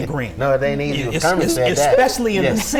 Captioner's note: chuckles